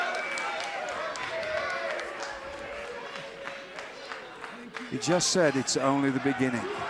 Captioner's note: crowd chatter